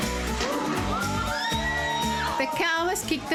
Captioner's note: screams